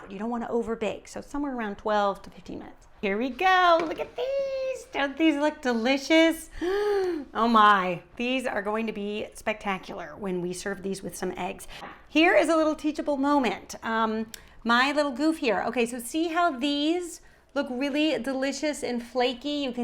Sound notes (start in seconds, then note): 6.6 gasps